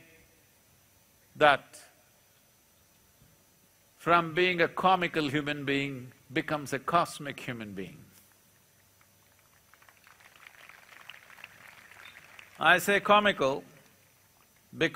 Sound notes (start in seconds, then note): 8.8 applause